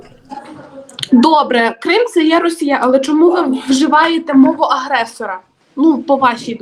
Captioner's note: Ukrainian